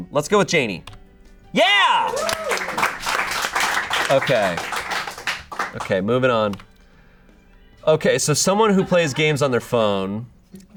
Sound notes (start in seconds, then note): 1.9 audience applauding